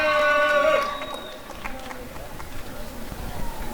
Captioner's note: applause and cheering